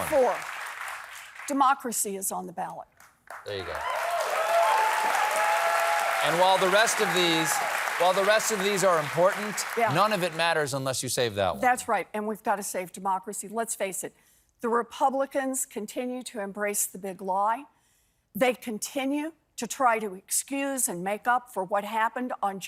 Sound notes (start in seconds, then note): 3.4 cheers and applause